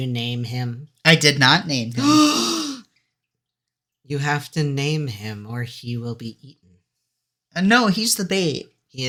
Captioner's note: gasp